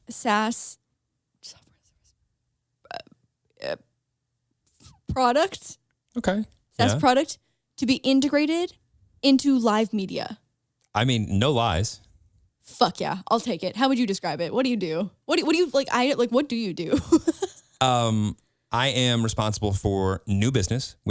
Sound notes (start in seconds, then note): 16.9 laughs